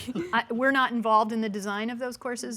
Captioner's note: giggles